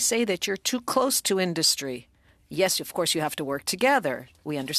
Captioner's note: speaking French